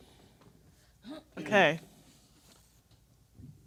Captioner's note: clears throat